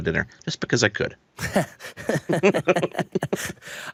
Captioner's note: laughing